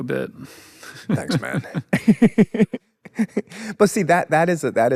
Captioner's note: laughs